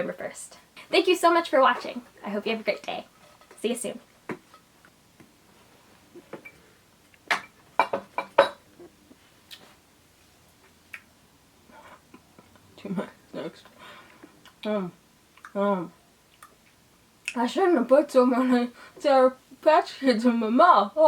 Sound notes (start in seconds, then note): 7.8 chewing noises